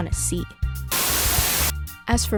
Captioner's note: Static